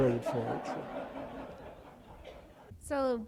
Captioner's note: laughter